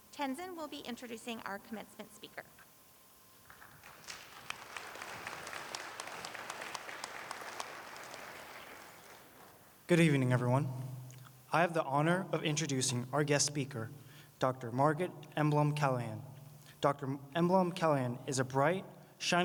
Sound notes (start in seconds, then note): 4.9 applause